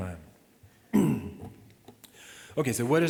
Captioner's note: clears throat